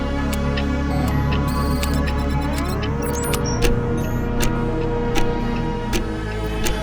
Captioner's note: clocks tick ominously